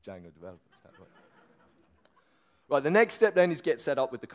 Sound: audience laughs

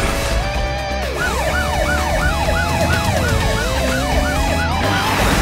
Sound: siren blaring

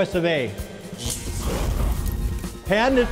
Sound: flames igniting

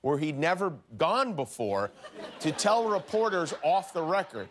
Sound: laughter

